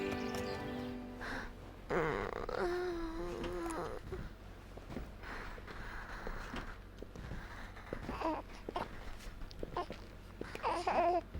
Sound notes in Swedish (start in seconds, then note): 1.8 stönande; 8.5 bebis gurglande